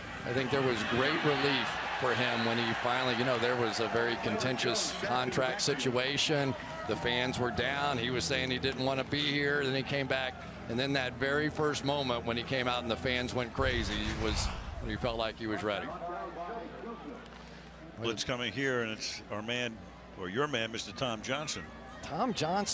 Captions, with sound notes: But I think there was great relief for him when he finally-- you know, there was a very contentious contract situation. The fans were down. He was saying he didn't want to be here. Then he came back. And then that very first moment when he came out and the fans went crazy was-- he felt like he was ready. [pa announcement] Blitz coming here. And it's our man-- or your man, Mr. Tom Johnson.